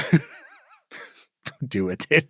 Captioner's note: laugh